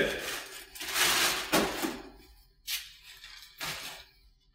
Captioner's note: plastic crinkling